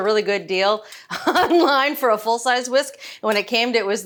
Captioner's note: laughs